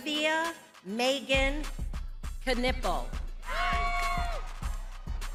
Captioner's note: lively music continues; crowd continues cheering